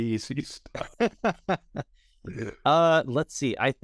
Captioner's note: laughing